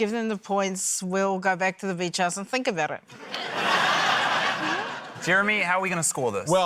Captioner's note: laughter